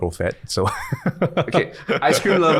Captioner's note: laughing